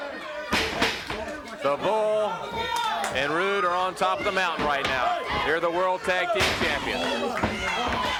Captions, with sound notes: (blows thudding) The Bull and Rude are on top of the mountain right now. They're the world tag team champions.